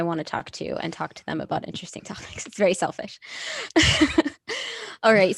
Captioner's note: laughs